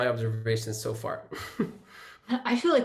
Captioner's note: chuckles